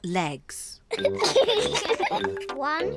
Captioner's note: both giggle